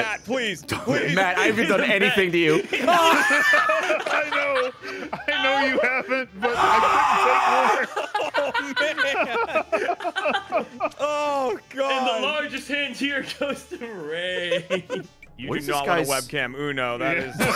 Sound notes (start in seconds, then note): 3.1 screams; 17.2 laughs